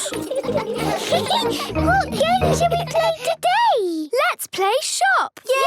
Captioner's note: giggles